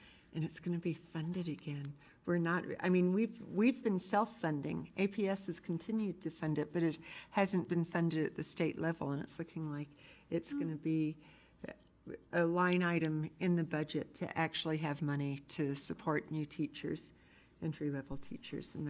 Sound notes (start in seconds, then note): none